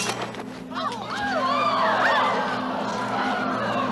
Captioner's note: crowd gasps and screams